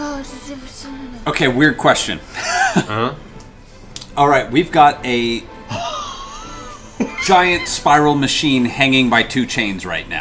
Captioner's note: laughs